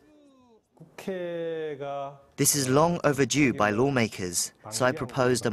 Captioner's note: Korean